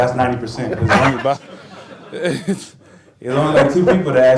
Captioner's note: laughter